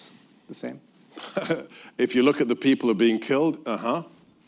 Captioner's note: laughs